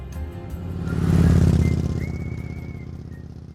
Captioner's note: motor rumbles